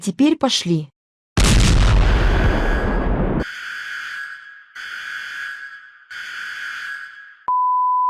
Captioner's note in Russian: Бум; сирены